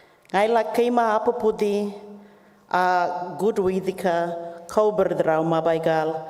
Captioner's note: continues to speak native language